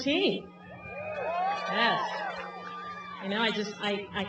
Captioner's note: cheering